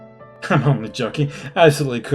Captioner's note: laughs